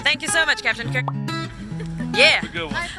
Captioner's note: laughs